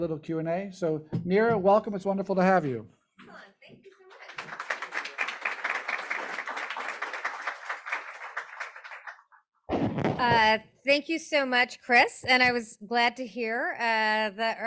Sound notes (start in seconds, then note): 4.0 audience applauding